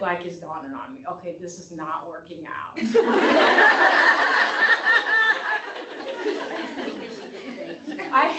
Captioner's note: laughter